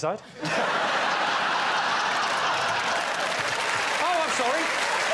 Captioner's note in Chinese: 笑声